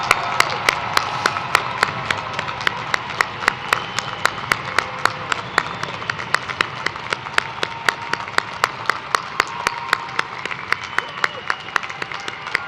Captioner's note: cheers and applause